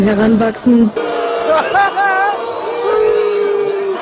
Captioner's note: BOOO! BOOO! in the backround